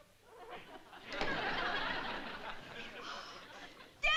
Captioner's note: laughter